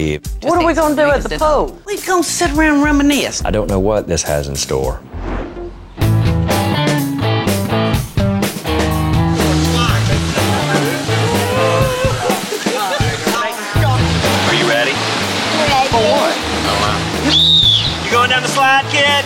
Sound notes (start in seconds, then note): 5.7 upbeat music; 17.2 whistle blowing